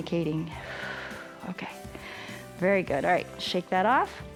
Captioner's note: exhales